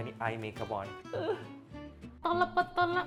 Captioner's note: cries; singing in Tamil